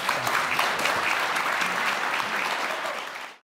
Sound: audience clapping

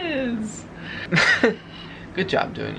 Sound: chuckling

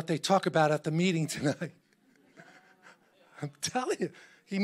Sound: laughs

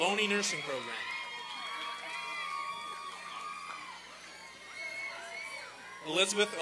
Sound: applause and cheering

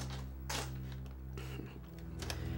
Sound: chuckles

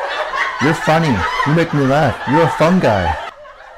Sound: laughter

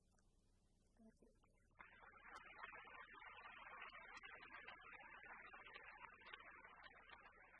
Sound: applause

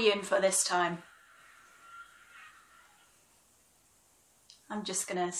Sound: drilling

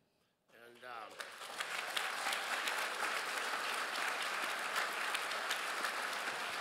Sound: crowd applauds

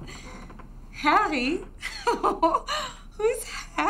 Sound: laughs

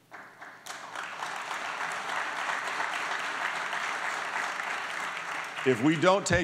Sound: applause

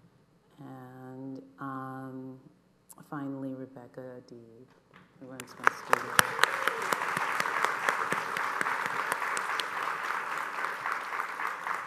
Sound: applause

